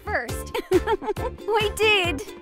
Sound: laughs

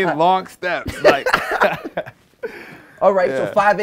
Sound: laughter

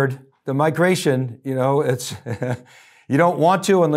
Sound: chuckles

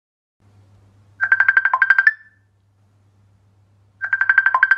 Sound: phone ringing

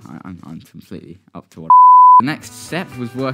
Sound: blooper beep

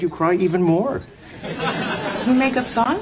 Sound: audience laughing

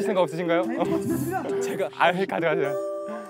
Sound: hesitant

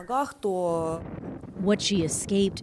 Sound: speaking Foreign Language

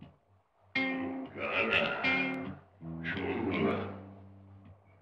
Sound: caveman speaking

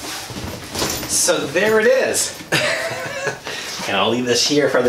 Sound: laughs

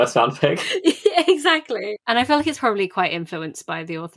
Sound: laughs

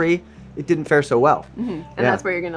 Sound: hums agreeingly

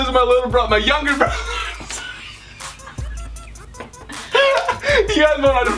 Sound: laughing

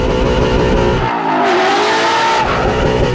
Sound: car engines roaring

